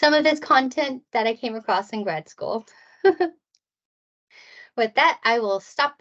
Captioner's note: chuckles